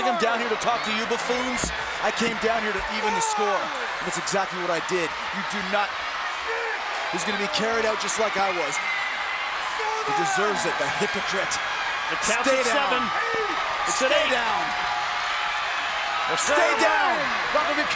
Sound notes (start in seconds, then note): 15.3 crowd cheers